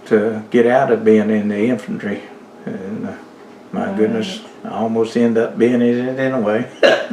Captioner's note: laughs